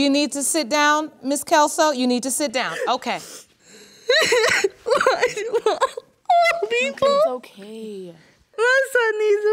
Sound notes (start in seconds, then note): 3.9 sobbing continues